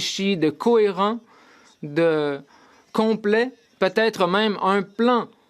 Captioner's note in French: voix de l'interprète